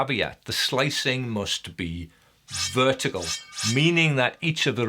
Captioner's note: slicing whoosh